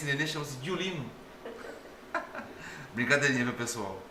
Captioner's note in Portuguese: risadas